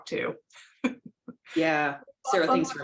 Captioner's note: laughter